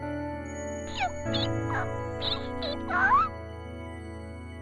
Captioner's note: characters squeaking